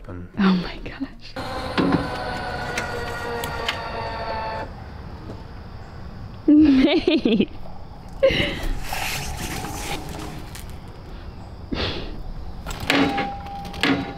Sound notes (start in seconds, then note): 1.3 car ramp buzzing; 6.4 laughing